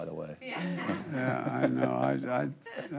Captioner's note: laughs